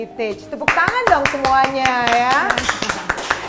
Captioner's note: applause